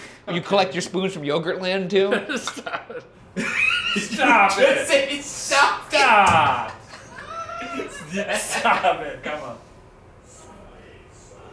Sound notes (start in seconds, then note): 3.3 laughing; 6.0 both laughing